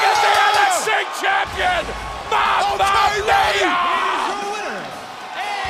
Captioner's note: bell ringing